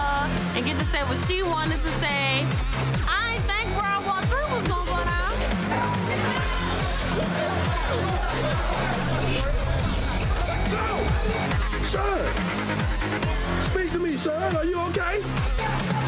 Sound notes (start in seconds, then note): 5.3 crowd yelling; 5.7 techno music